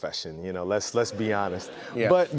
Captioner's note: laughter